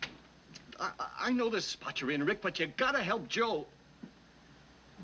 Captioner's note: stammering